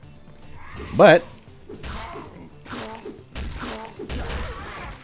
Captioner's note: crowbaring intensifies